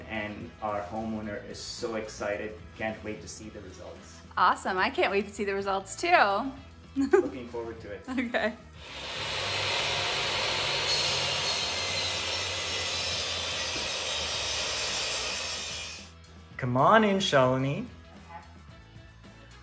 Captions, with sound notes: And our homeowner is so excited and can't wait to see the results. - Awesome. I can't wait to see the results too. - Looking forward to it. - Okay. (sawing sounds) - Come on in Shaleni. - Okay.